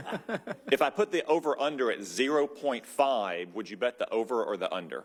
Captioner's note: laughter